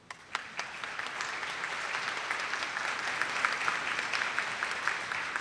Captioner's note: attendees clapping